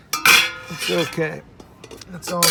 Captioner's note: metal clanging